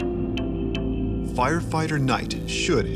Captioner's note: voiceover